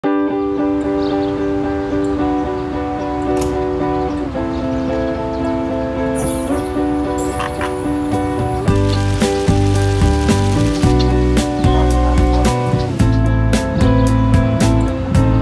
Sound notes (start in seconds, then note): 0.0 birds chirping; 0.0 gentle guitar music